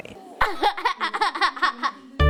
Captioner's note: laughs